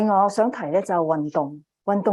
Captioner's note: speaking chinese